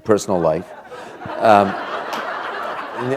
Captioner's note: laughter